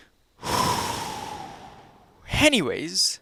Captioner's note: breathes out